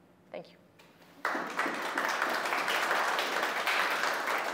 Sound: applause

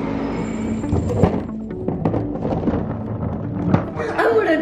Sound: bin rolling

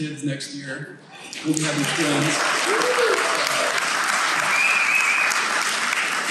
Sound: team members cheering

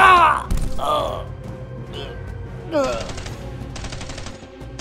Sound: struggle Sounds; gun Shot; rapid Gun Fire

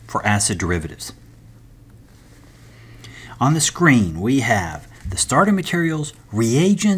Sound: turn page

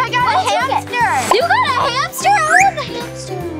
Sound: pop

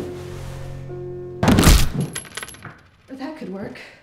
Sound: big cracking noise

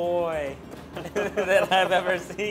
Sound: laughing

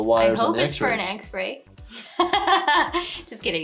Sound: laughing

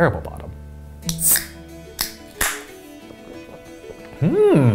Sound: soda can pops

